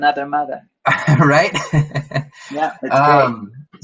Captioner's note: chuckles